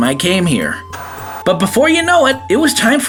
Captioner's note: TV Static